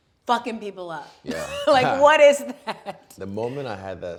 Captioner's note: laughing